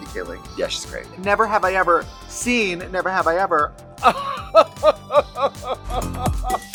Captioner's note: laughs; upbeat energetic music